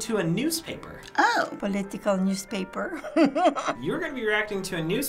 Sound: chuckles

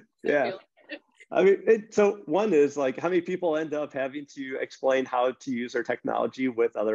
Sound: grumbling

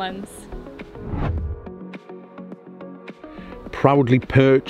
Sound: low whooshing

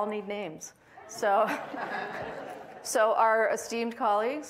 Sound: audience laughing

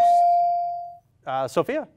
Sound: ding

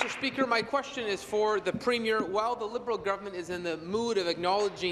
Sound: applause

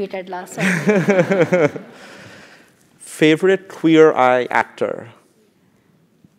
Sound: laugh

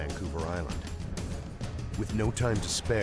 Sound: voiceover

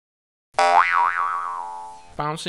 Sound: boing sound

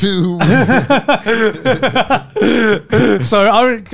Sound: laughing

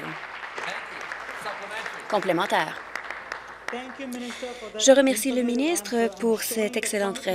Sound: applause

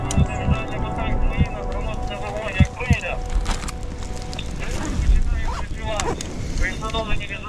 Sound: radio: final instructions before the mission

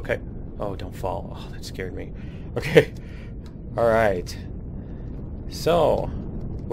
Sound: laughs

